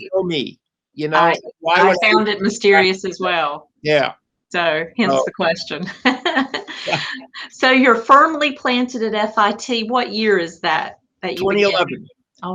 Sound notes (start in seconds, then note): 5.7 laughter